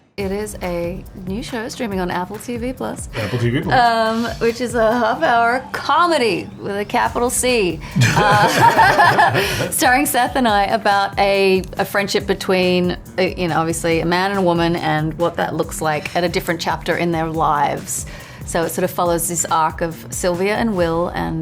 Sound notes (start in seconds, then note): 7.9 Rose and Seth laugh